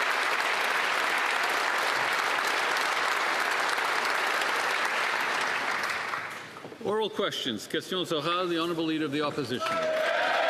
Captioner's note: applause